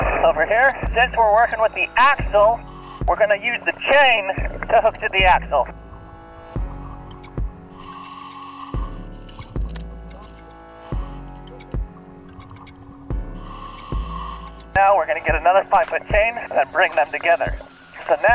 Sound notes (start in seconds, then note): 7.6 air hisses; 13.3 air hisses